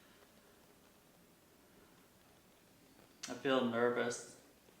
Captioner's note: breathes deeply